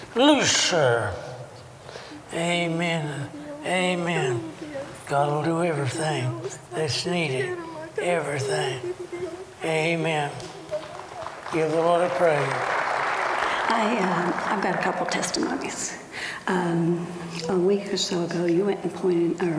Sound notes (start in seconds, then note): 10.1 applause